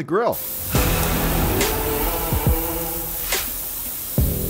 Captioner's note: sizzling meat; slow rock music